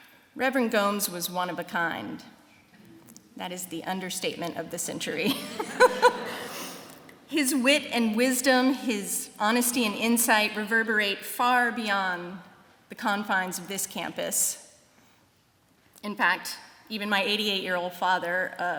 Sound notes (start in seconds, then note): 5.2 laughter